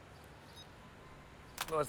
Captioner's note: phone beeps